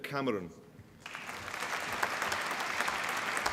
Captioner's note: applause